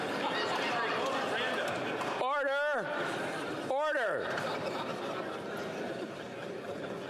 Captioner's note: chatter